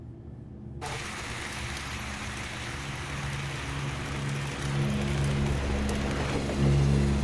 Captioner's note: train engine whirring; pensive music